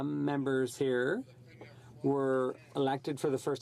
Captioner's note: speaking French